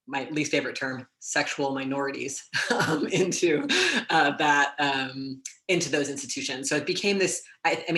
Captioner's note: laugh